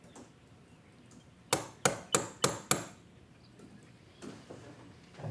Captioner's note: door knock